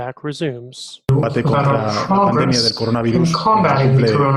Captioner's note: Spanish language